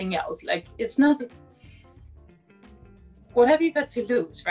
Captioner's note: inhales